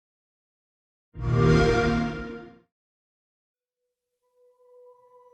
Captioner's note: xbox sound